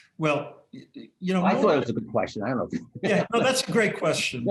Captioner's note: laughter